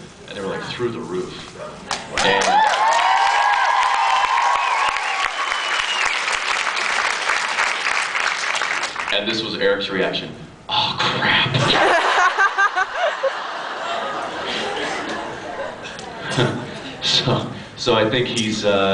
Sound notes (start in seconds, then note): 2.1 cheers and applause; 11.6 laughs